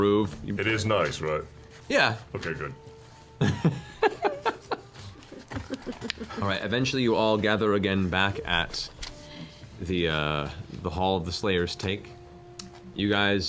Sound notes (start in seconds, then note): 3.4 laughs